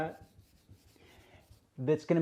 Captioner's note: rough scrubbing